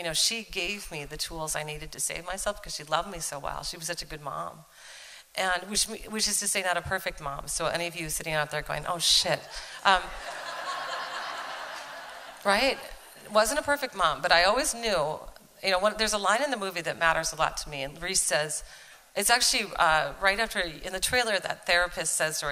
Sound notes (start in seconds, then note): 10.1 laughter